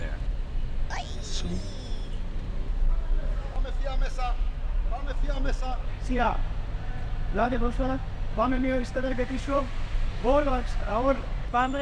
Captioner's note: directions in Greek